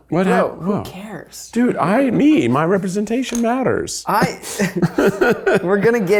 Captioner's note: laughs